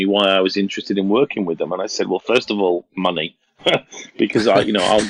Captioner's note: laughs